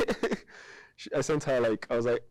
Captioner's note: chuckling